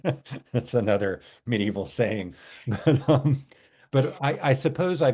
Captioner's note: laughs; laughs